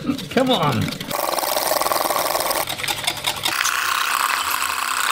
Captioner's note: whisking noises